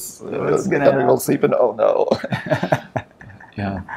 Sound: laughs

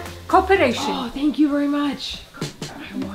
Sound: gasps; sexy music

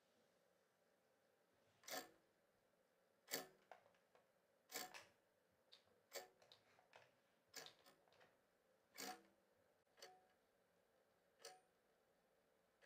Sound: clock ticking

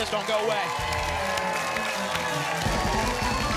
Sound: applause and cheering cont

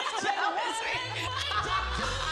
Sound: laughter

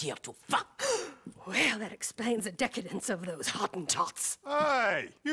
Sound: gasps

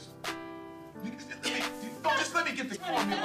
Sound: both laughing

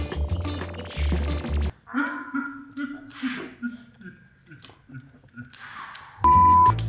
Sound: giggles; giggling slowed down

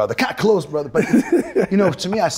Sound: Michael laughs

